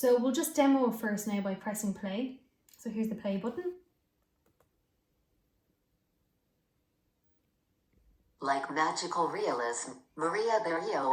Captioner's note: natural reader reads aloud